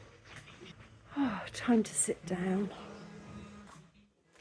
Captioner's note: sigh